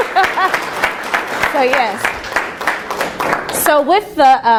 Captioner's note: applause continues